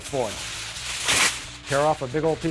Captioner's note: foil ruffles, rips